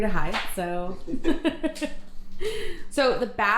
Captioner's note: laughing